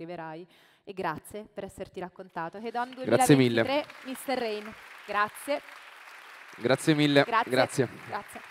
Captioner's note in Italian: Applauso